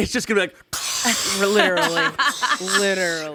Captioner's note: imitates mic crackling